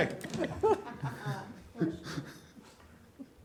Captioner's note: laughter